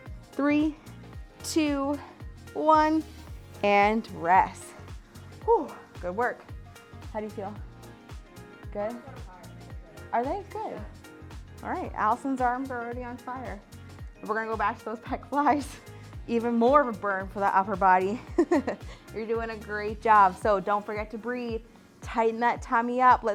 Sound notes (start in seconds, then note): 18.1 laughs